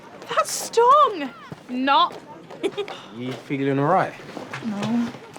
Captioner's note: giggles